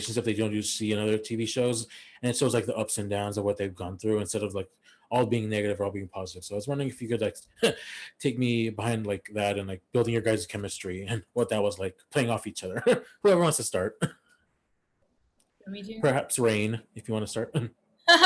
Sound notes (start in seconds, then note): 15.1 laughs